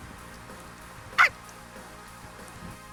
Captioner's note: bark